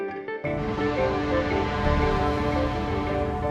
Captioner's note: ship's horn blowing